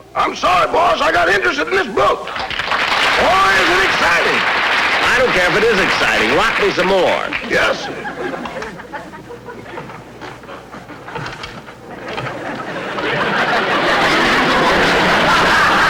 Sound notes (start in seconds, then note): 8.1 audience Giggling; 9.5 apparatus Creaking; 11.9 audience Laughing